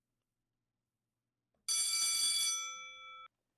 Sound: school Bell Rings

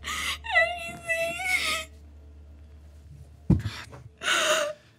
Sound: crying

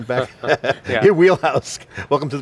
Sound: chuckling

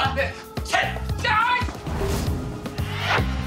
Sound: yelling

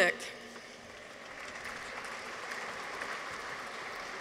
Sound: audience applauds

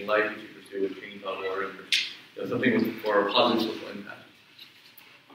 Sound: speaks away from mic

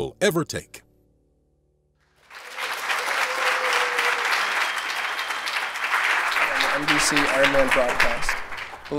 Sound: applause

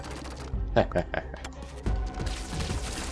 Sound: laughs

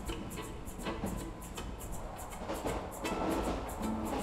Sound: train rumbles on tracks

